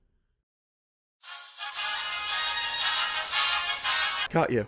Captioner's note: wrist device ring tone